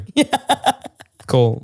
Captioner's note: laughs